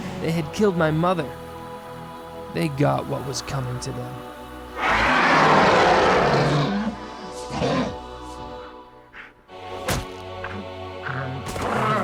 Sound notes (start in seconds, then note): 4.7 trogs growling; 5.1 suspenseful music